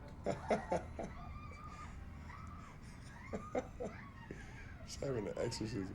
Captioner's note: laughs